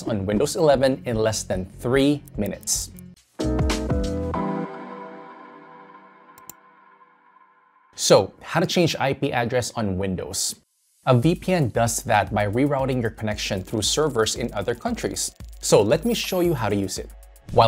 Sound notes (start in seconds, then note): 3.2 upbeat music; 6.4 mouse clicks